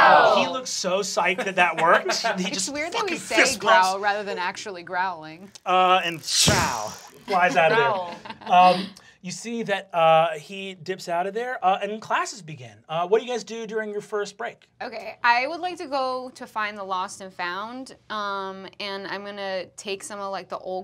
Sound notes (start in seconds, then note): 1.2 laughter; 5.6 trills; 7.1 giggling